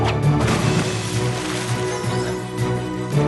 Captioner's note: splash